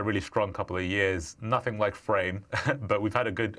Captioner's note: chuckles